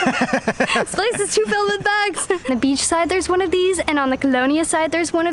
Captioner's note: laughter